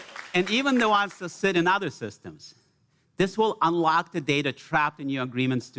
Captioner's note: cheers and applause